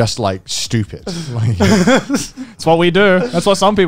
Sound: laughing

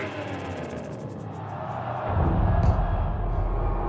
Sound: crowd; crowd jeering

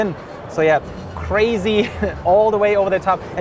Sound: chuckles

